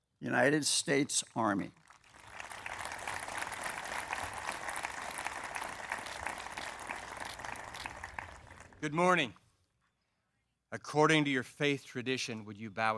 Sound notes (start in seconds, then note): 1.6 applause